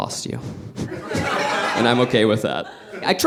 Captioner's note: audience laughing